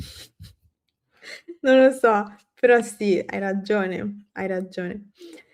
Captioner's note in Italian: sbuffare